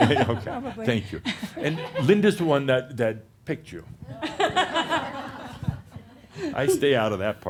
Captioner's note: laughs